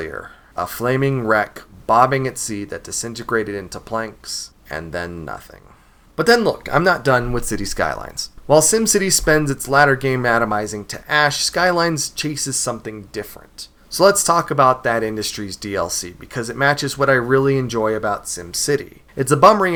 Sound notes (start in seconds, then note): 5.2 sigh